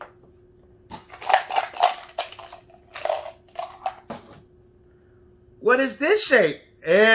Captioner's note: shape objects cluttering